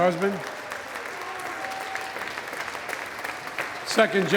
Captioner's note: applause